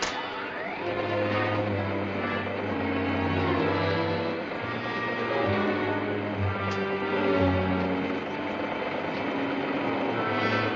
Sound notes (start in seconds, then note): 0.9 machine humming